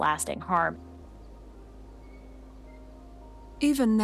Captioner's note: soft birdsong